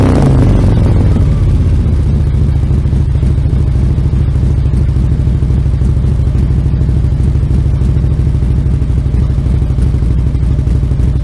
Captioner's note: engine revs; engine idles